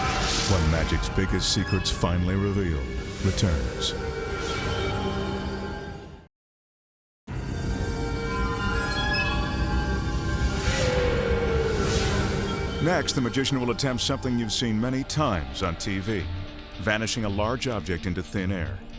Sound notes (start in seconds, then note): 4.0 graphics whooshing; 4.0 mysterious music